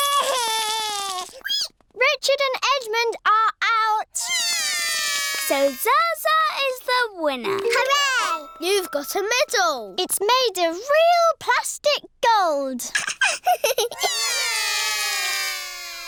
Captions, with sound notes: (CRIES) Richard and Edmond are out. (BOTH CRY) So, Zaza is the winner. Hooray! You've got a medal. It's made of real plastic gold. (LAUGHS) (ALL CRY)